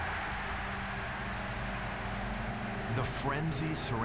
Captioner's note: cheers and applause